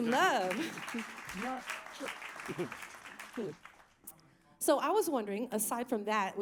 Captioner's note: applause